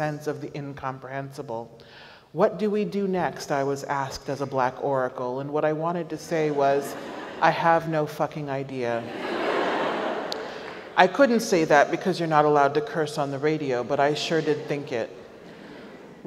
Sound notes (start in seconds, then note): 9.0 audience laughs